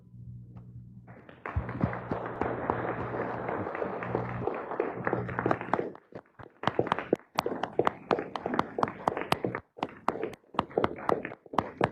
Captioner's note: applause